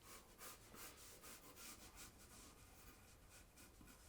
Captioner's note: pencil scratching